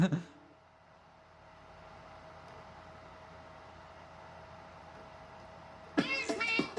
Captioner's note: laptop dvd drive spinning